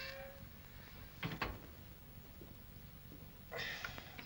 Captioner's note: gate clicks shut; rough grunts